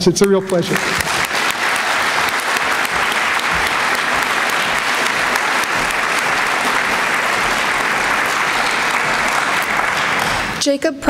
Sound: applause

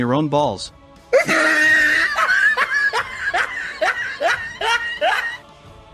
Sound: laughs

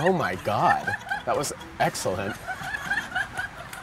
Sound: laughter

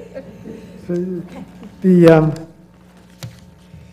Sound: laugh

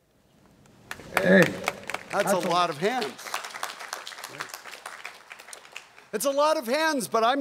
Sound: audience claps

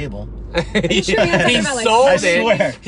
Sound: laughing

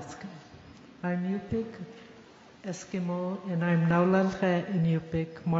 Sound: speaking yupik

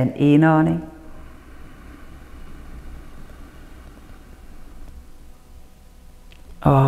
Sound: inhales

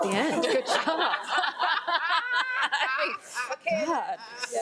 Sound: all laughing

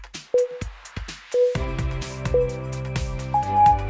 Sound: timer beeping

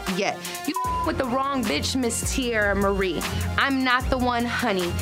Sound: beep

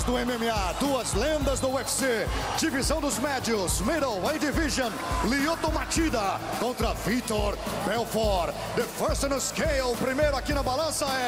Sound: speaking foreign language

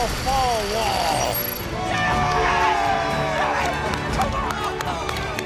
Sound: cheering

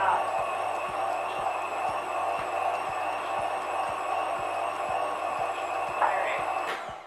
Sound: whirring sounds

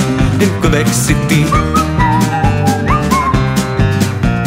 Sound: whistle

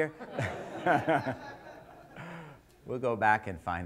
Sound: laughter

